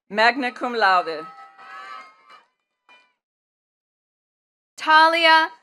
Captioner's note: attendees cheering and clapping